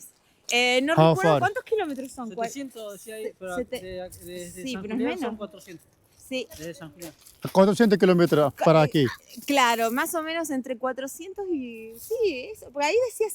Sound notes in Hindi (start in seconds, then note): 1.6 स्पेनिश में बोलते हुए